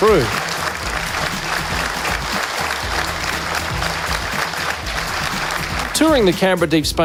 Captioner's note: crowd applauds